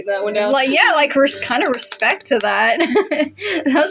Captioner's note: laugh